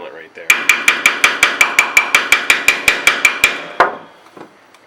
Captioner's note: hammering on metal